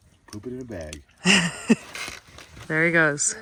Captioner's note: chuckles